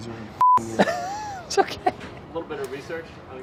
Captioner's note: laughing